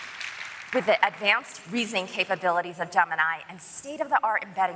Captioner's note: applause